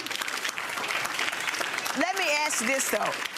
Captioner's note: audience applause